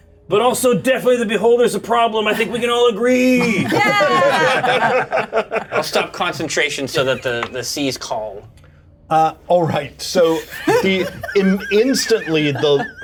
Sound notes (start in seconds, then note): 3.4 laughter